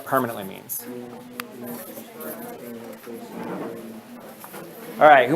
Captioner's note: student chatter